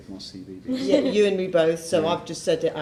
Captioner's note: laughing